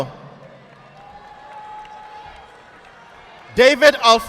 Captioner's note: audience applauding